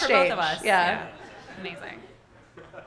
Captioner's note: audience laughing